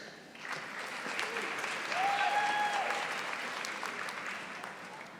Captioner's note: audience applauding